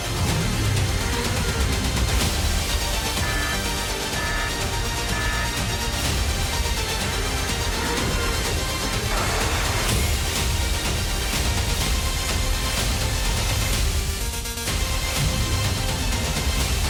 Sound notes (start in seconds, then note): 0.2 intense music playing; 5.5 alarm sounding; 10.0 roaring